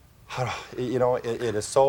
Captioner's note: sighs